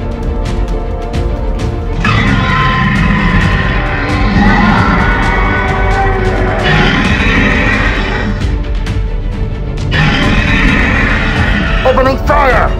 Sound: growling, a loud roar

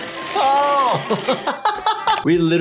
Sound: laughs

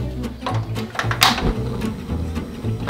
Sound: SFX: Turning on stove

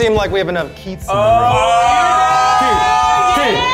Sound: cheering

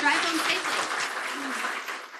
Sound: applause

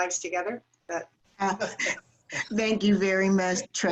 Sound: laughter

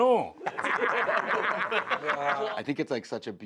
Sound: they laugh

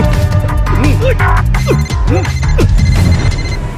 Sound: phone buzzing

